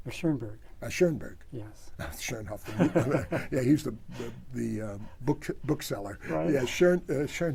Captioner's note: laughs